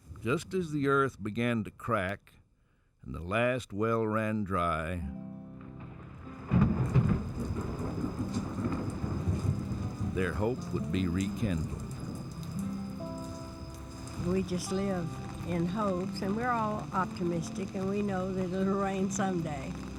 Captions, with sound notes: just as the earth began to crack and the last well ran dry -- [ Thunder rumbling ] Their hope would be rekindled. >> We just live in hopes. And we're all optimistic and we know that it will rain someday.